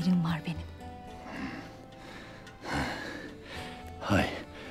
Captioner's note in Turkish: Nefes sesi